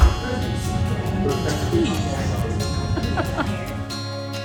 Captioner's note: laughs